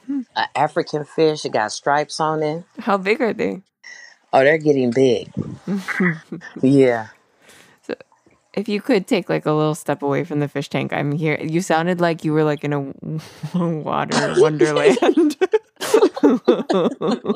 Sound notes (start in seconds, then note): 5.5 laughs; 14.1 both laugh